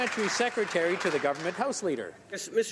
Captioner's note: some Applause